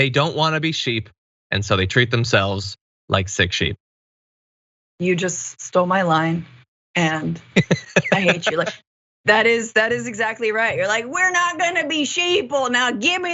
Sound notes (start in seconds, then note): 7.5 laugh